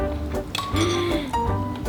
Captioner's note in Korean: 놀람